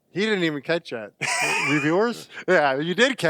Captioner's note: laughs